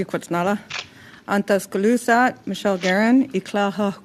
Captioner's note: speaking French